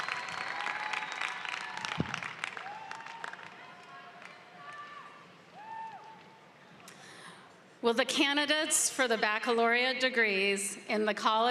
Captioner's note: applause